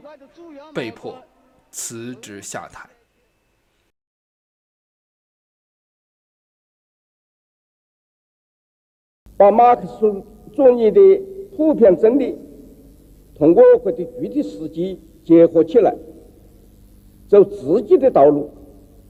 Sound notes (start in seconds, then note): 3.0 silent